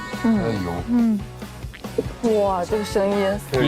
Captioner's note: Crunch